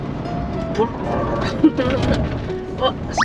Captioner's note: imitating the car's noise